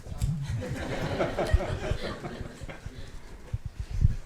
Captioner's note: everyone laughing